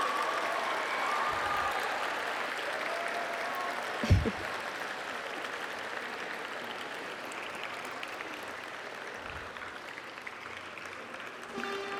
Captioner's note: applause And Cheering